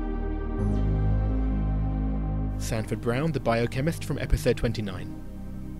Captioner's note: voiceover